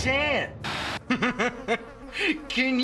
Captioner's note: Chris Laughs